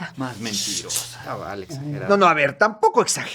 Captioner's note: whispers among the crowd